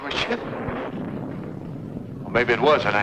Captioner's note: thunder rumbling